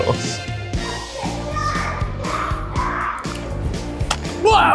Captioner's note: upbeat music; child screeching